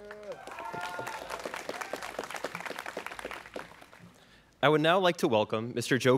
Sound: students cheering

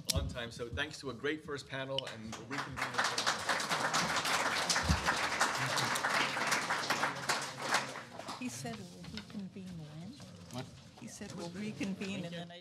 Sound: applause

